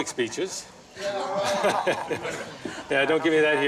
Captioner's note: laughter